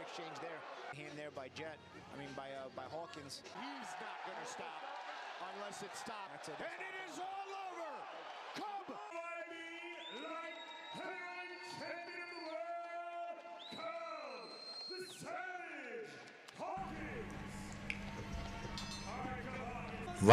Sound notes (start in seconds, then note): 7.6 screaming; 9.8 cheers